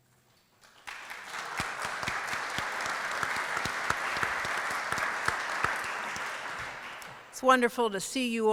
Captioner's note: applause